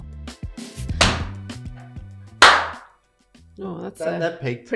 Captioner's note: hand tapping